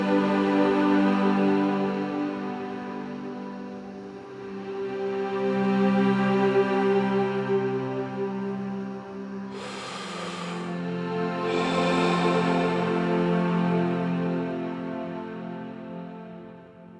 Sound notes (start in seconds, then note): 9.3 deep breathing in and out